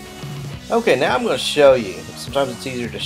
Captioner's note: voiceover